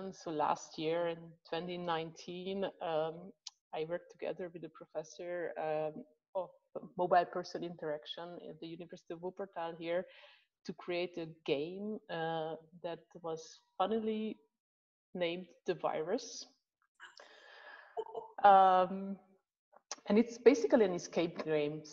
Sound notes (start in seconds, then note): 18.0 laughing